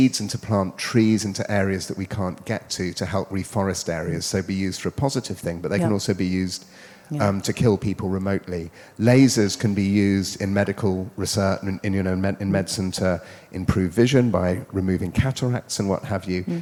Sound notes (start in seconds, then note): none